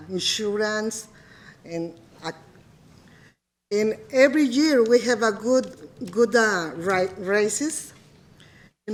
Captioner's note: speaking in foreign language